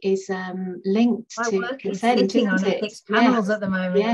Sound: chattering

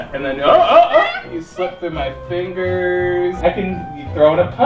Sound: cat meows

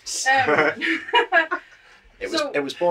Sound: laughter

